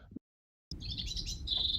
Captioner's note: bird song